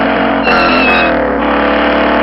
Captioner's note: skid